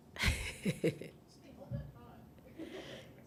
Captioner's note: laughing